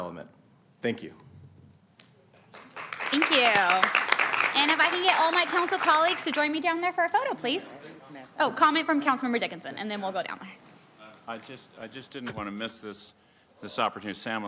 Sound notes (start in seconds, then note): 5.1 applauding